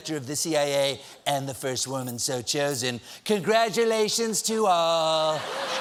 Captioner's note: laughter